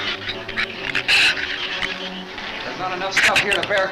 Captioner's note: shrews chatter